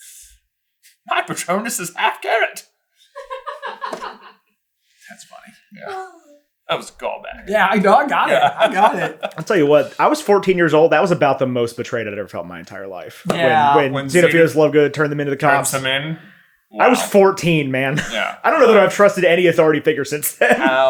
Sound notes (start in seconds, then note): 3.1 laughing